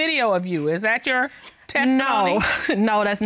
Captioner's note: chuckles